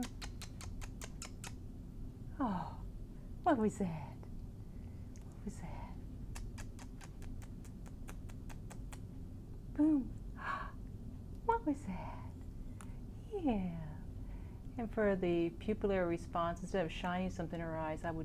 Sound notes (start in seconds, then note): 0.0 kissing noises; 6.2 kissing noises